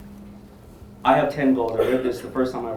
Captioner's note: audience member coughing